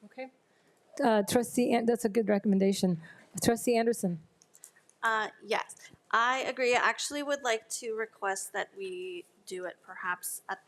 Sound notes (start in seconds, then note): none